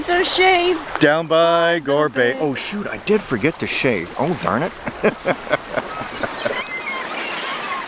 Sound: laughing

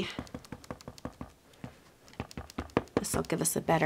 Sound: ink pad tapping

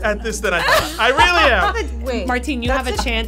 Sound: laughing

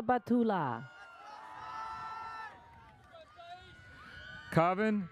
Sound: audience cheers

